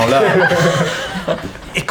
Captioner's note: laughter